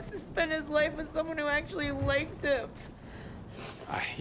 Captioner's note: sniffles